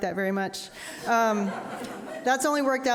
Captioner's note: audience laughing